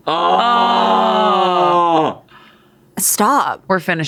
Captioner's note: groan